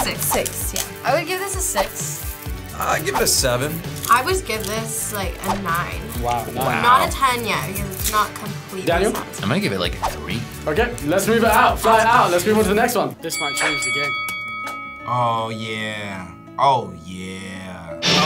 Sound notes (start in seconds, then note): 13.2 bell rings